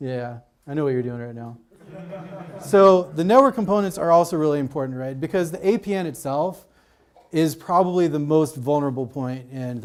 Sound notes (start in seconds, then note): 1.8 audience laughs